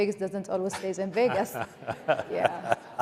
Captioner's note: laughter